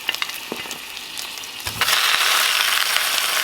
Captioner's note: sizzling